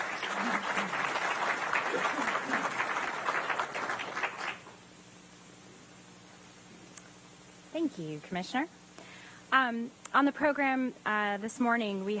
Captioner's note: applause